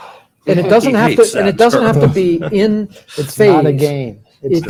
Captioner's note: laughter